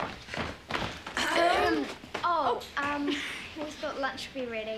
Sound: children clearing throats

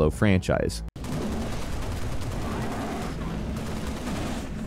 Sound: gun firing

